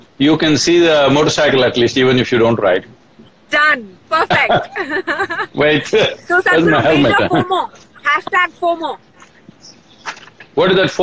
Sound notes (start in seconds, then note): 4.2 laughter